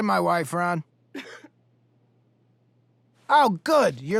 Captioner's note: student coughs